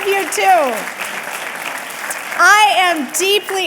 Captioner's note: audience clapping